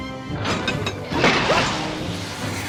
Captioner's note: gears clank